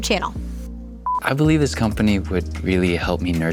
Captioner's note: beeps